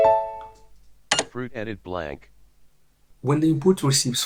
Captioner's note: automated Voice